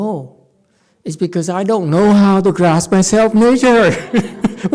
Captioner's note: laughs